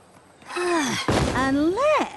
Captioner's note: sigh; thud